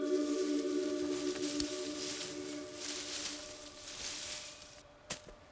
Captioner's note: leaves rustling